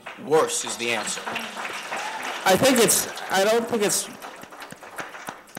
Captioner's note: applause